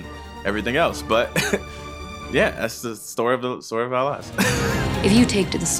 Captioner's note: chuckles